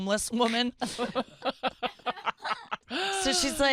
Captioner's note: laughing